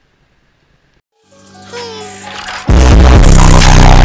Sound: ticking; foghorn blaring

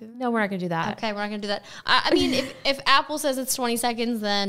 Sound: laughing

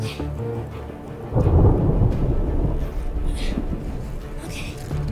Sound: thundering

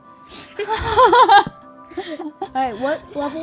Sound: laughing

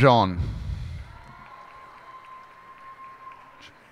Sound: cheers and applause

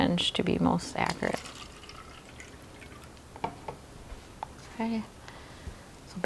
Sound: water glugging

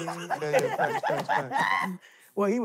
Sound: contestants laughing

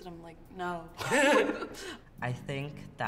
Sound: chuckling

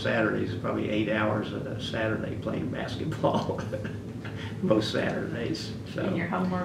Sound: laughs

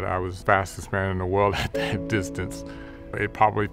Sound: chuckles

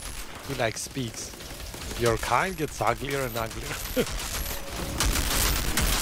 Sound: laughs

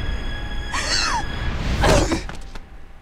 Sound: gasping; thudding

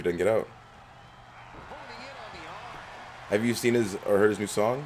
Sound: applause

